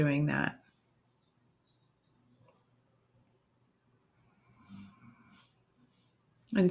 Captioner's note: silence